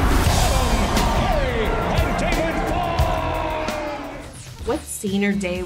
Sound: crowd cheering

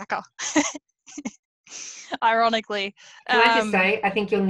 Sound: laughs

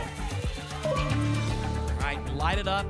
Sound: ping

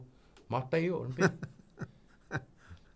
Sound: laughing

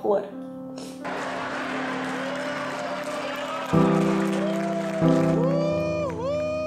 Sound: people cheering and clapping

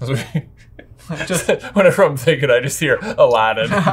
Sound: laughs

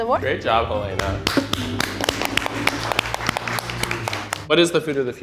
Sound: everyone claps

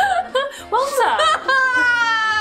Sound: laughs

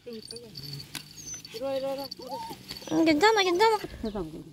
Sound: crying

